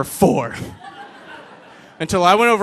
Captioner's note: audience laughing